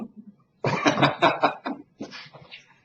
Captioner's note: laughter